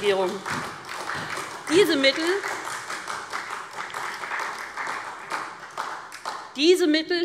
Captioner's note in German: Beifall SPD